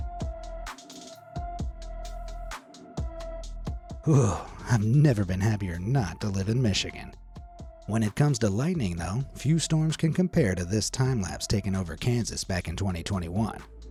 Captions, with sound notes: (narrator shudders) I've never been happier not to live in Michigan. When it comes to lightning though, few storms can compare to this timelapse taken over Kansas back in 2021.